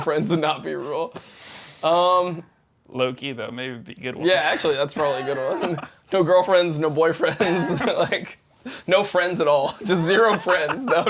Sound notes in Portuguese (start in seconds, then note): 0.0 risos; 5.0 risos; 7.2 risos; 9.6 risos